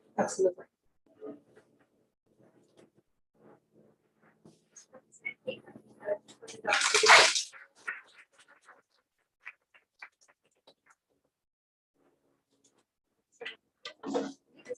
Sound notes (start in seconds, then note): 6.7 applause